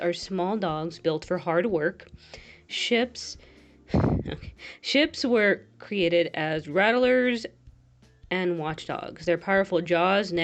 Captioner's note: luagh